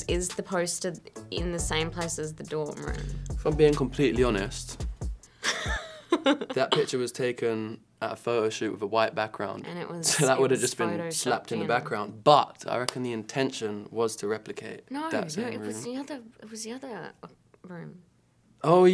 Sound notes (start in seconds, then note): 5.5 laughs